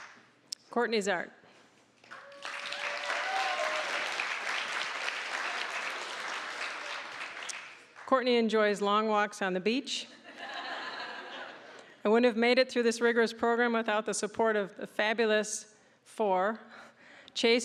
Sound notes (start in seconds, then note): 2.0 applause, cheering; 10.3 audience laughing